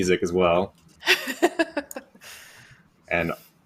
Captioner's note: laughs